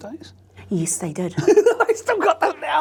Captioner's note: laughs